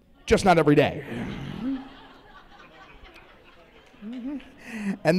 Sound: laughter

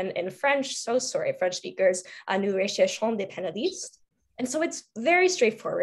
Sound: speaking French

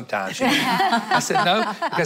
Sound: laughter

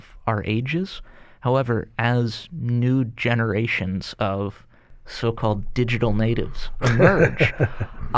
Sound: laughter

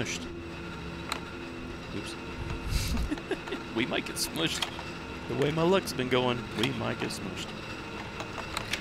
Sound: laughs

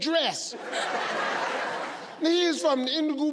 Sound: audience laughing

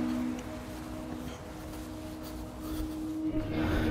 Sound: waves Crashing

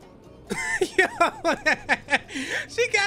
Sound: laughs

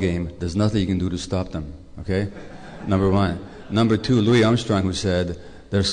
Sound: laughter

